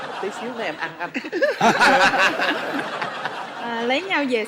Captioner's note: laughing